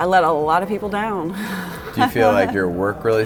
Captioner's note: laughs uncomfortably